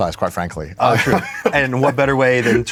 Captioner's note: laughs